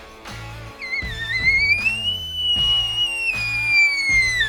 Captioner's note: tube call bugling